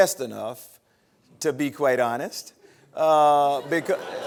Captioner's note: laughter